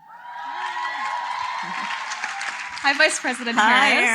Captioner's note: applause